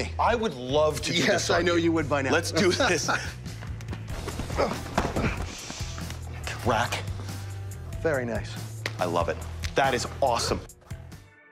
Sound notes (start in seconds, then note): 2.4 laughs; 11.2 gentle music